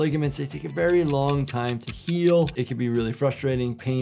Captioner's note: clock ticking